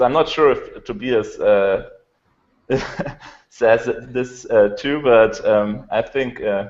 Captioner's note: laughs